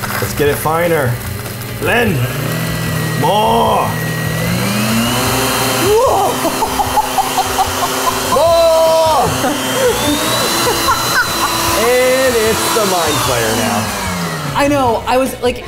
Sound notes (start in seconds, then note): 0.0 blender humming; 3.9 humming increases; 6.2 laughing; 9.7 Safiya laughing louder; 9.7 humming increases more; 13.8 humming fades